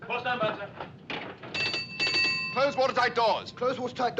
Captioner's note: bell Ringing